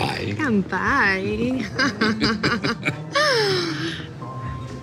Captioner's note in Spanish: Risas